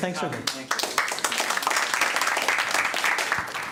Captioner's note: applause